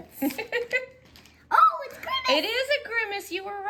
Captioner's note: laughs